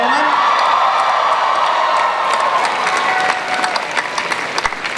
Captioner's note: cheers and applause